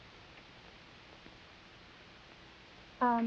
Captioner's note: none